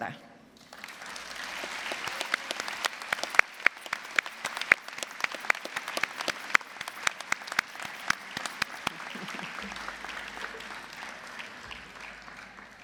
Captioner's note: applause